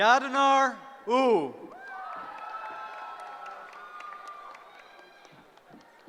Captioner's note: cheering